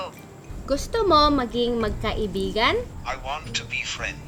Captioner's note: foreign